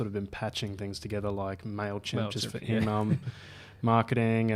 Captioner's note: laughs